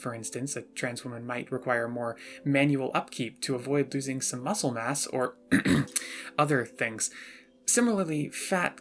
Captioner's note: ahem